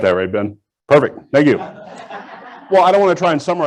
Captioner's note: audience laughs